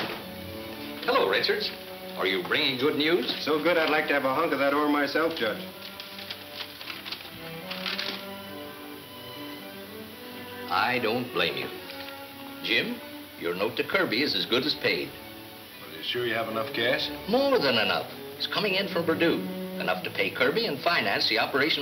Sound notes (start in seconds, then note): 5.2 paper rustling